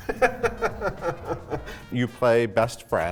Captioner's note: laughing